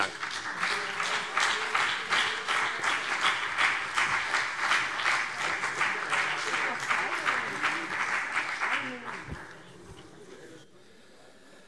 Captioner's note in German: Beifall CDU und BÜNDNIS 90/DIE GRÜNEN